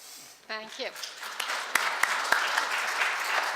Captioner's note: clapping